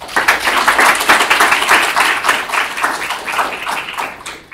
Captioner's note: audience applauds